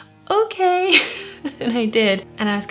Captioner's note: laughs